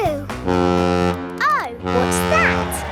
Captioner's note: horn bellowing